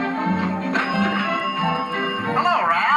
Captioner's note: ding